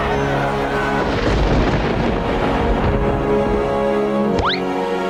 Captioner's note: thunder rumbling; dramatic music